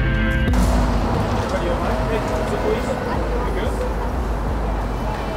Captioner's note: street noises